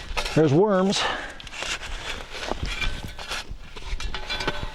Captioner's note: digging